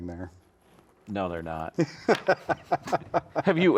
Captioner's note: laughs